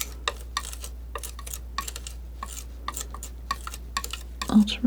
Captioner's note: scratching